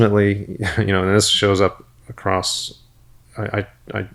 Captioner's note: chuckles